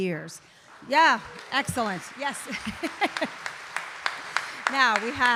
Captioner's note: audience applauding